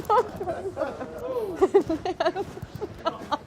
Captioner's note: laughing